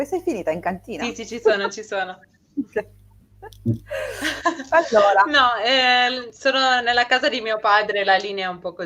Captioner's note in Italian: risate